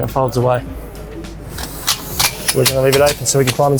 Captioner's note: ladder clinking